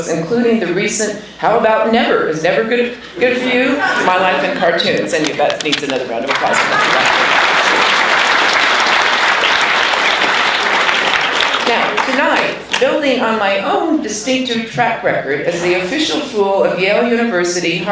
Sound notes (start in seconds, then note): 6.2 applauding